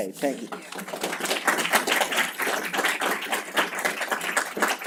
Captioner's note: applause